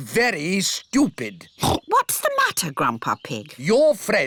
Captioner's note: oinks